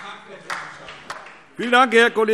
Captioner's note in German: Beifall SPD